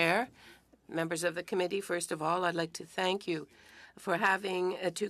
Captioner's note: speaking French